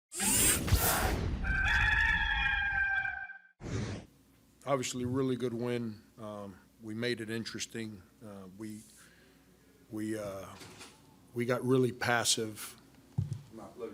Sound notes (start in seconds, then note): 0.2 logo whirs; 1.4 cock crows; 3.8 air whooshes